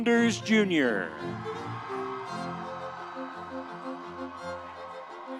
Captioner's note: audience cheering